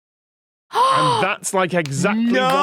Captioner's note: gasps